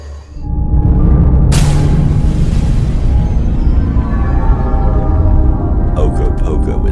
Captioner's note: suspenseful music; water splashing